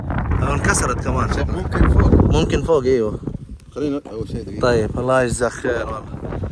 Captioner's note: Arabic